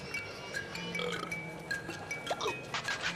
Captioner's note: belching